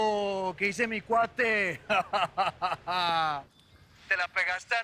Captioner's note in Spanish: Risas